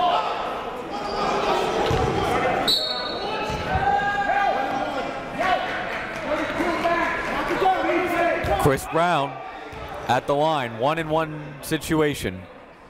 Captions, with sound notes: (whistle blows) (crowd talking) Chris Brown at the line, one and one situation.